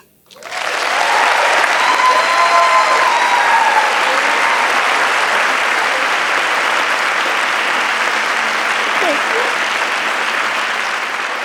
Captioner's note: applause